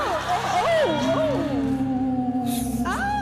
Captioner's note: ghost moaning